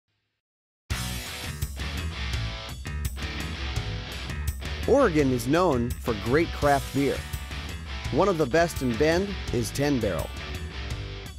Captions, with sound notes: (rock music) - (Voiceover) Oregon is known for great craft beer. One of the best in Bend is 10 Barrel.